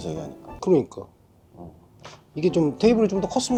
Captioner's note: breathless Silence